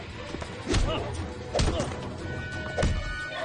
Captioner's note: grunting